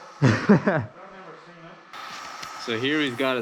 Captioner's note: laughing